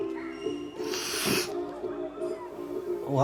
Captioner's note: sniffs